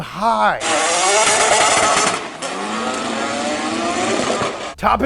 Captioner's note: engine revving